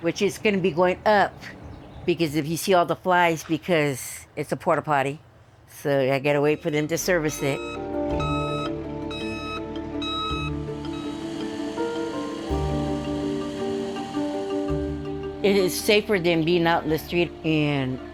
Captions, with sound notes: which is going to be going up, because if you see all the flies, because it's a port-a-potty, so I got to wait for them to service it. [ TRUCK BEEPING ] [ PUMP WHIRRING ] It is safer than being out in the street, and